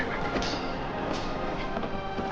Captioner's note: horse whinying; metal clanging